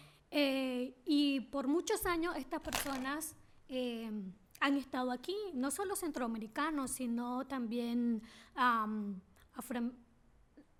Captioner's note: speaking spanish